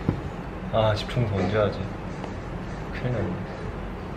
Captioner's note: Sonido del corazón